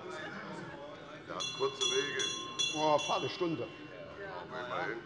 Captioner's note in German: Unruhe - Glockenzeichen des Präsidenten